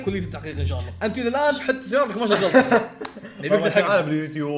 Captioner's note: laughs